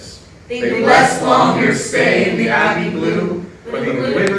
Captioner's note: in Unison